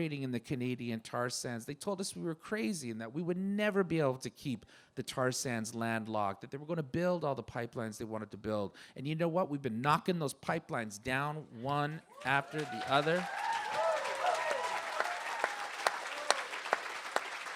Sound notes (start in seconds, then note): 13.9 applause